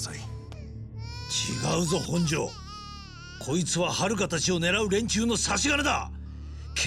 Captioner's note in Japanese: 泣き声